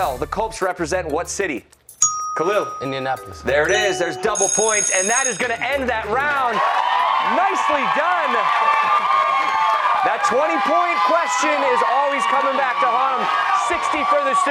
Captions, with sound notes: HERE YOU GO, GUYS MUCH THIS IS WORTH DOUBLE. IN THE NFL THE COLTS REPRESENT WHAT CITY? KHALIL. INDIANAPOLIS. THERE IT IS. DOUBLE POINTS AND THAT'S GOING TO END THAT ROUND. [ CHEERS AND APPLAUSE ] NICELY DONE.